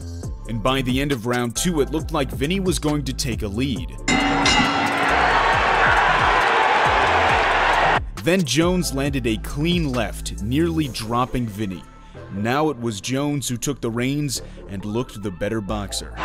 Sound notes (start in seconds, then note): 4.0 bell rings; 4.1 crowd cheering